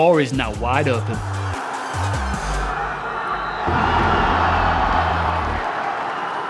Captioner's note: crowd cheering